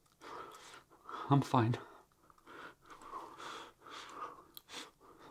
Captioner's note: breathing heavily